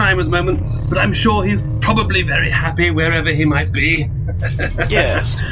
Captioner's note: chuckles